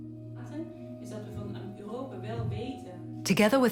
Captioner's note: Korean spoken audio